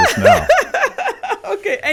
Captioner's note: laughs